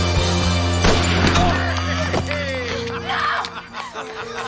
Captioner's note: Harry laughing